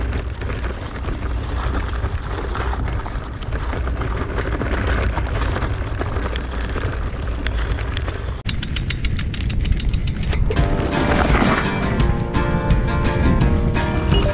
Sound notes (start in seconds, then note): 8.5 wheel clacking; 10.6 upbeat music